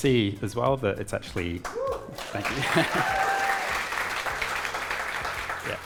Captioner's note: audience cheering